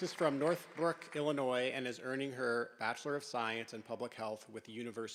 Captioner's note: applause